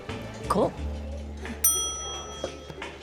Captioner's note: bell dings